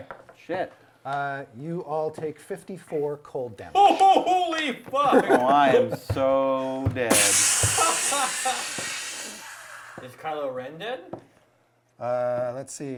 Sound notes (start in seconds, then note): 7.4 smashing sound